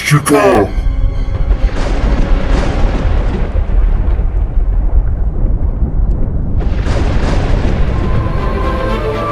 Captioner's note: thunder